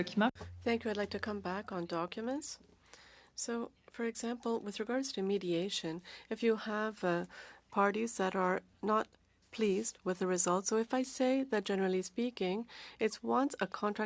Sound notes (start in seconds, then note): 6.9 speaking French